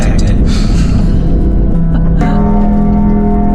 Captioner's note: both laughing; brooding ambient music